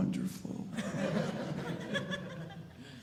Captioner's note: audience laughing